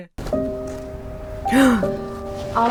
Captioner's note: mournful music; Emma gasps